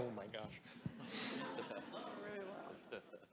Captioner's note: audience laughs